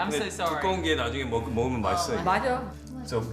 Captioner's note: speaks in foreign language; mother speaks in foreign language